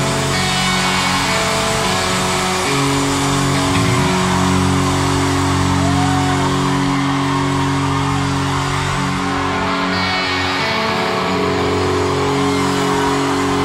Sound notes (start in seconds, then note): 0.4 crowd cheering; 10.0 crowd cheering